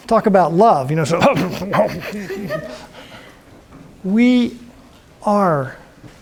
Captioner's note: imitates scoffing